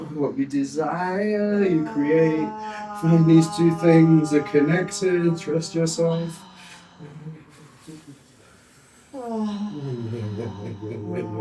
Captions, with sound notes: What we desire, you create. When these two things are connected, trust yourself. (humming)